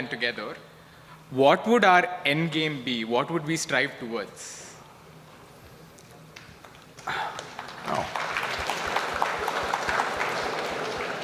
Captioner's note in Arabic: تصفيق